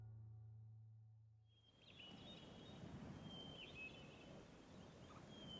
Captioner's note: birds chirping